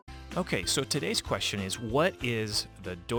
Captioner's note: voiceover